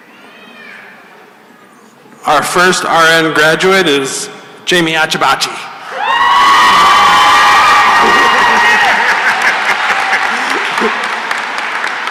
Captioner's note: cheering and applause